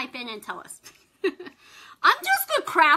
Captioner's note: laughs